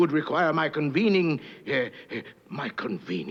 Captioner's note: pants